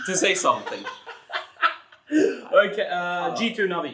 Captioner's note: continues laughing; laughs